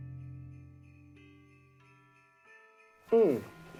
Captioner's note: bells jingling